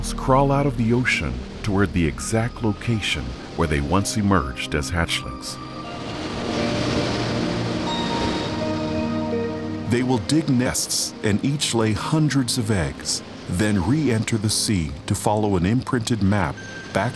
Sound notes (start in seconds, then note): 6.5 mellow music; 6.5 waves crashing